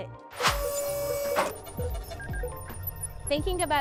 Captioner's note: robotic arm whirring